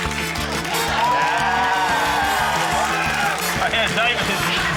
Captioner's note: rapturous cheering, applause